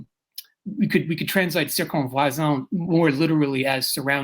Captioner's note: speaking french